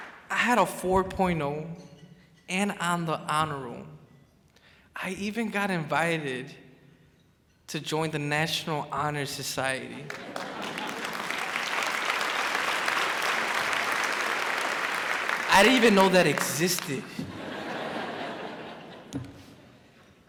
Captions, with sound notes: I had a 4.0 and on the honor roll. I even got invited to join the National Honors Society. (crowd claps) I didn't even know that existed. (crowd laughs)